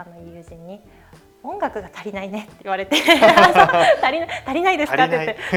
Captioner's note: laughs